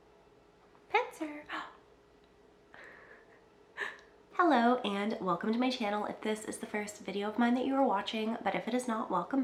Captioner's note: gasp